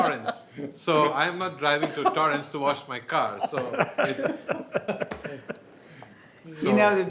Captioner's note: laughter